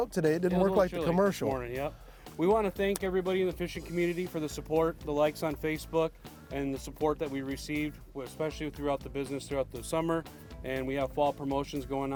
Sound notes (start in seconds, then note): none